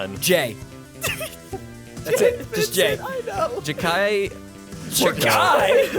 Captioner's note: chuckles